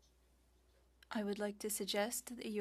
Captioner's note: speaking French